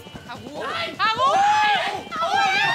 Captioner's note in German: Aufgeregte Rufe